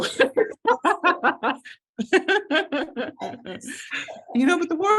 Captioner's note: laughing